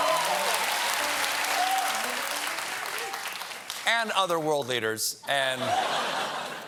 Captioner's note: cheers and applause